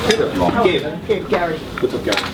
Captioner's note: voiceover